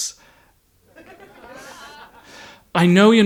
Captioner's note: audience titters